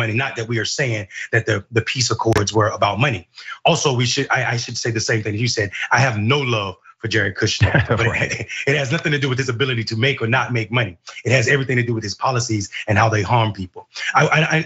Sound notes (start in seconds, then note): 7.4 laugh